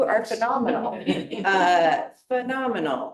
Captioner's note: board members laughing